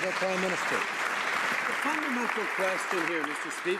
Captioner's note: some Applause